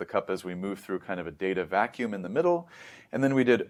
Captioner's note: inhales